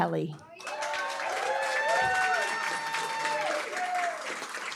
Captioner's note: applause, cheering